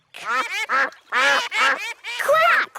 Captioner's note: quacking